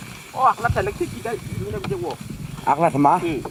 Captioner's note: non-english speech